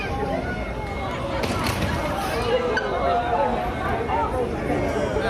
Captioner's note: people groaning, murmuring